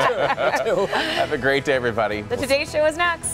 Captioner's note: laughter